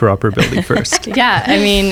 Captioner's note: laughter